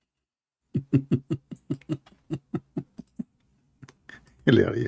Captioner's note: Ketawa